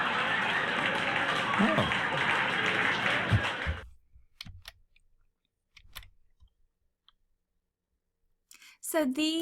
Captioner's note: cheering and applause from crowd